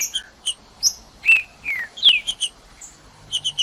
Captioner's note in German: trinca ferro cantando